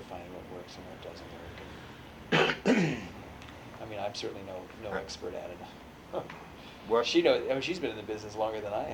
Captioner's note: laughs